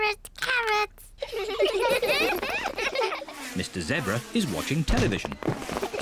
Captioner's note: all giggle